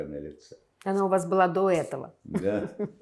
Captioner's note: laughing